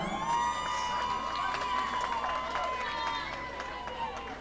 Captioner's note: audience applauding